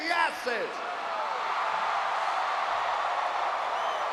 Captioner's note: audience cheering